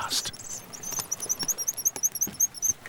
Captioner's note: bird chirping